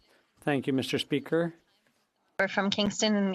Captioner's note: speaking French